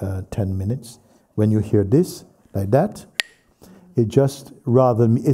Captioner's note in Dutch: klakt met de stokjes